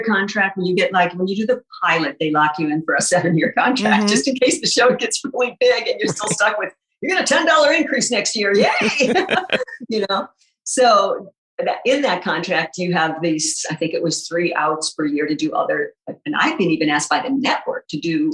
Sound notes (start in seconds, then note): 8.5 guffaw